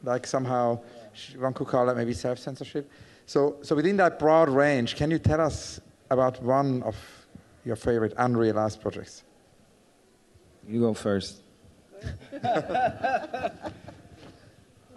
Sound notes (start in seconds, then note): 12.0 laughter